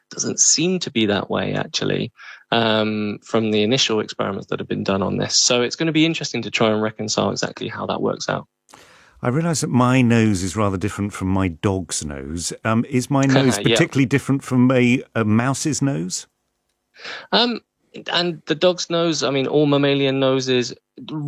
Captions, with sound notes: Doesn't seem to be that way actually, um, from the initial experiments that have been done on this. So it's gonna be interesting to try and reconcile exactly how that works out. [lips smack] I realize that my nose is rather different from my dog's nose. Um, is my nose- [chuckles] Yeah ... particularly different from a, a mouse's nose? Um, and the dog's nose, I mean, all mammalian noses